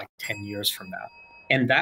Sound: bell dings

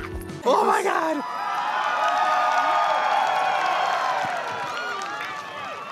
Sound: crowd cheering

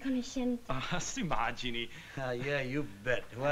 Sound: speaking italian

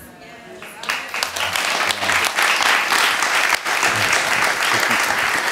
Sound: audience applauds

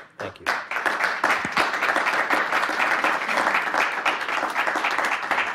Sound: participants clapping

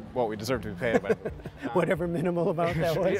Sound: laughter

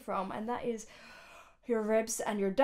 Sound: inhales deeply

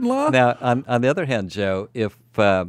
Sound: laughs

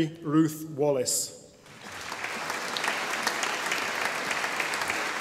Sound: audience applauding

